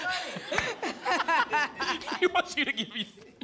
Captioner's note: laughter